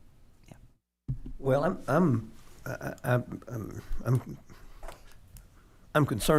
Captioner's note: stammering